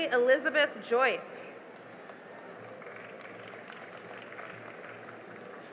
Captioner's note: cheering and applause